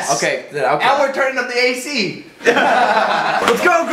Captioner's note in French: Rires